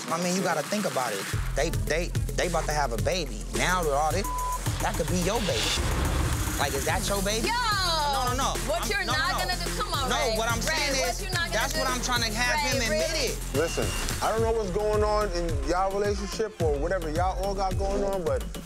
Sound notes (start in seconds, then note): 4.2 beep